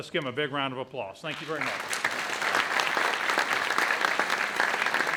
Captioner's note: audience applauds